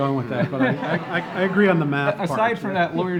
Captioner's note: laughing